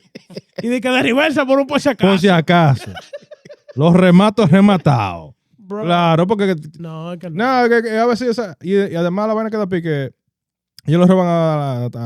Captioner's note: laughing; speaking In Foreign Language